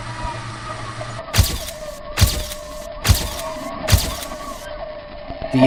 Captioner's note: camera shutters